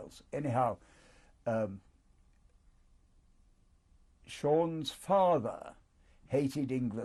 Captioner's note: pauses for 3 seconds